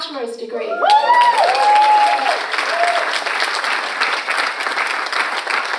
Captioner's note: audience applauds and cheers